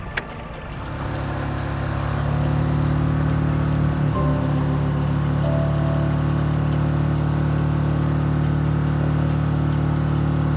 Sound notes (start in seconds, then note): 1.3 boat engine droning